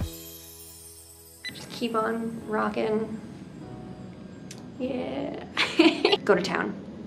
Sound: laughter

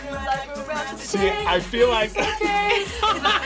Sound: laughs

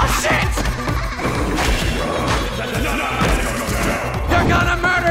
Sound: laughing in background

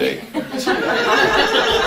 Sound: audience laughing

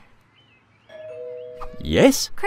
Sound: doorbell rings

